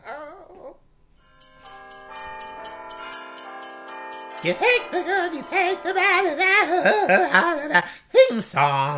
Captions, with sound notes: [christmas bells] You take the Good. You take the bad. You blah blah blah blaaah blah blah blah blah... THEME SONG!